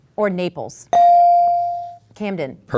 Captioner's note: ding